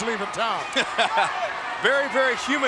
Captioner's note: laughing